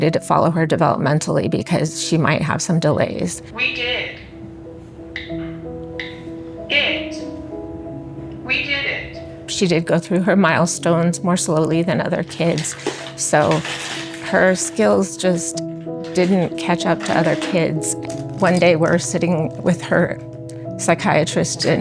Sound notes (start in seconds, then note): 3.6 iPad Speaker; 5.8 keyboard clicks